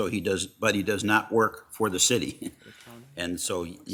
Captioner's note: laughs